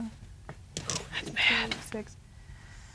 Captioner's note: whispering